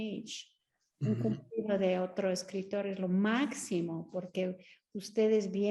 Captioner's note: Sandra speaking Spanish